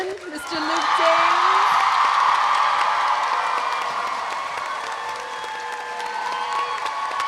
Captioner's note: audience applauding; audience cheering